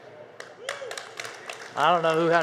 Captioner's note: audience applause